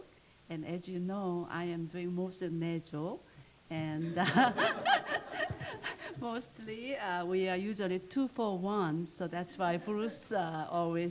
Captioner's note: laughter